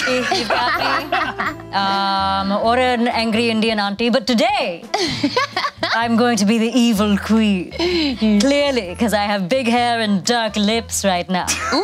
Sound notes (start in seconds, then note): 0.0 laughing; 4.9 laughing